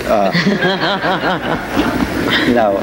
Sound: audience laughing

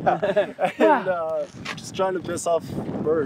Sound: laughing

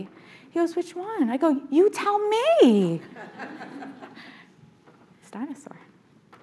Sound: audience laughing

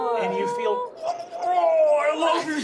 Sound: trilling

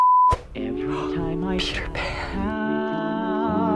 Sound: gasps, whispers

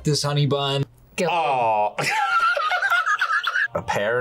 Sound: laughs

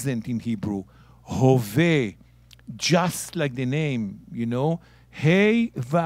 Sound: speaking in Hebrew

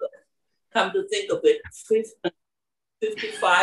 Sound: laugh

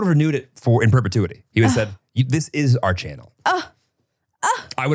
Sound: sighs

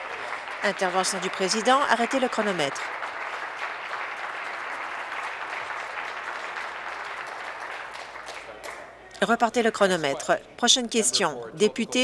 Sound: applause

